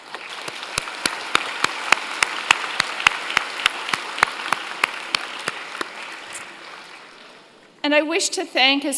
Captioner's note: applause